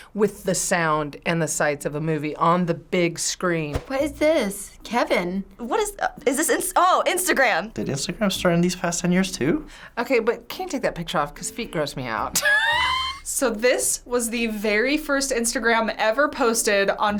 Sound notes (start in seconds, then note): 12.4 laughs